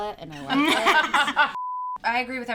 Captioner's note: laughing; beep